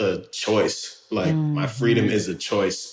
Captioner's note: laughs